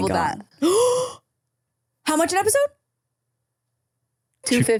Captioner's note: gasps